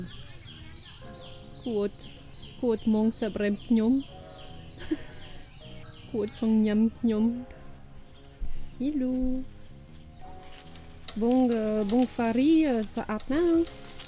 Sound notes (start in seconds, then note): 4.7 laughing Softy